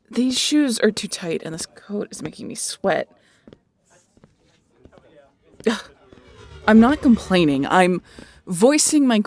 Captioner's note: scoff